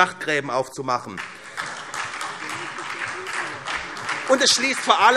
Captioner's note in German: Beifall SPD